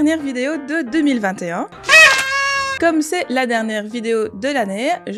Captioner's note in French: pffft